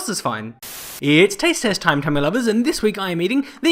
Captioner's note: Static